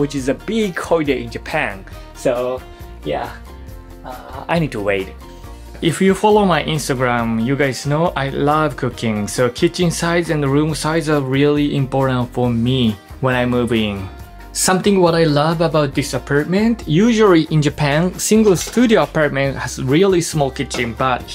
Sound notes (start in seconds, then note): none